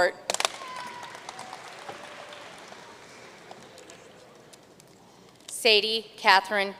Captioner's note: audience cheering and applauding